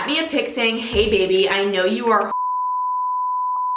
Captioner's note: beep